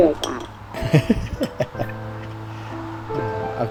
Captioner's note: laughing